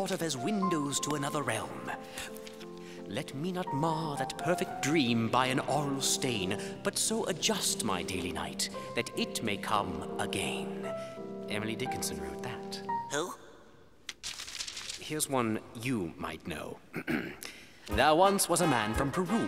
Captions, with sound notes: as windows to another realm. "Let me not mar that perfect dream by an auroral stain, but so adjust my daily night that it may come again." Emily Dickinson wrote that. Who? Here's one you might know. [clears throat] "There once was a man from Peru